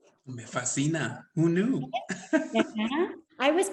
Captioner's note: speaks Spanish; laughs; speaks Spanish